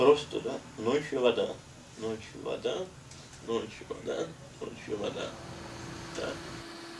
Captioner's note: calmly and quietly